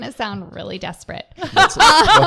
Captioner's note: laughter